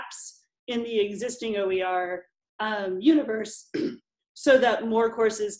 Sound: clearing throat

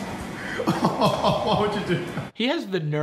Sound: man laughs

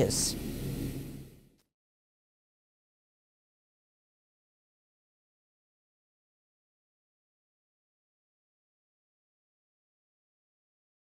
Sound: silence

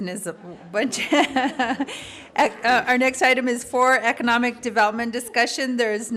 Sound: laughter

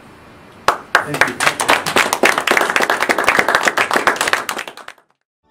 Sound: audience Applauds

